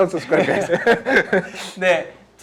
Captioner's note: laughs